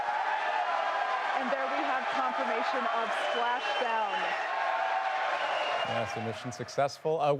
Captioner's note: cheers and applause